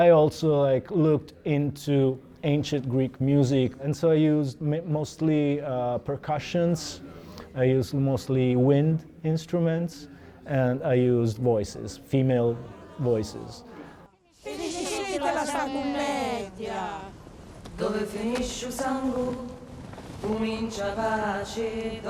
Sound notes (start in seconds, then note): 15.3 all Speaking Italian; 18.9 singing in Italian